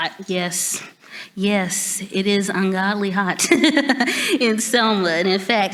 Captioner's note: laughs